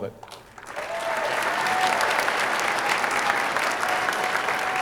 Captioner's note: audience applauding